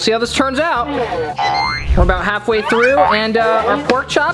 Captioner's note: air fryer beeps